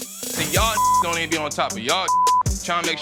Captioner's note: beep